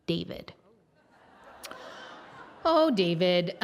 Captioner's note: audience laughs